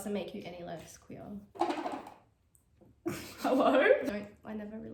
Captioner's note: laughs